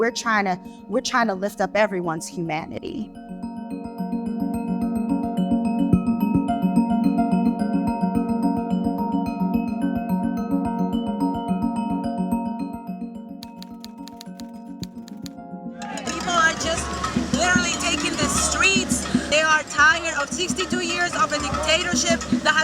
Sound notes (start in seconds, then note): 4.5 bright music continues; 13.4 keyboard keys clicking; 13.6 crowd talking